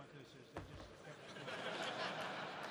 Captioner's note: laughter